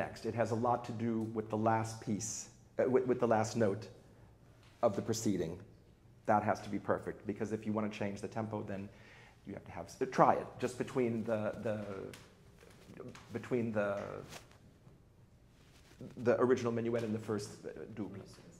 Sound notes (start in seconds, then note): none